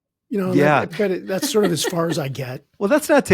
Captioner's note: chuckling